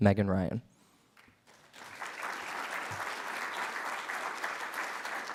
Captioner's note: audience applauds